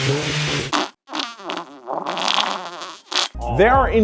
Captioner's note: engine revs; farting